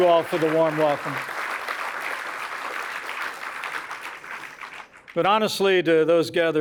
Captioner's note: applause